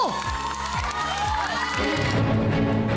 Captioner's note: scattered applause; stirring music playing